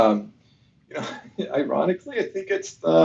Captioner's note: laughs